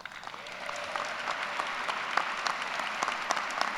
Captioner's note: applause